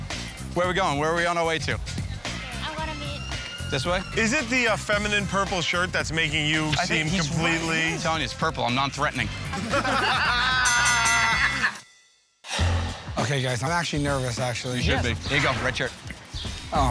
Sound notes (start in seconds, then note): 9.4 laughter; 11.7 ding!